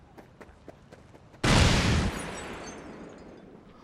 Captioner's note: explosion